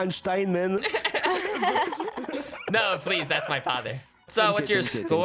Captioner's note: multiple people laughing